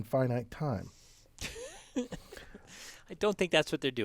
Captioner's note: laugh